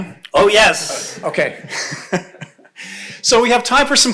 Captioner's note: laughs